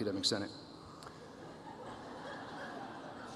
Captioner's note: chuckles